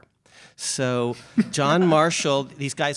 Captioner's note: chuckles